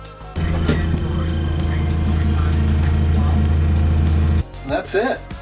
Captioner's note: Incinolet rumbling